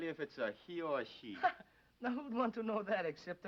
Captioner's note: man laughing